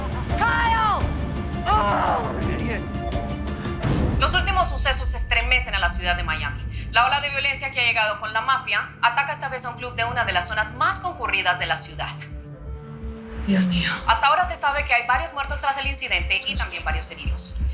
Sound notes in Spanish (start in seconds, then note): 1.7 Gritos y exclamaciones; 4.0 Voz en la TV; 13.6 Voz en la TV